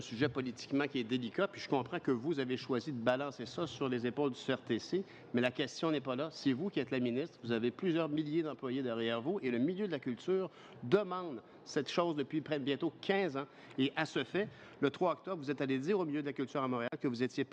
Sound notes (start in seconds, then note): 1.1 speaking french